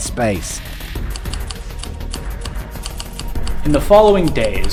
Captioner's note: typewriter